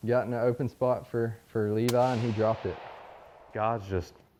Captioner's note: gun fires